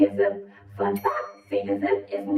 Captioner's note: bell dinging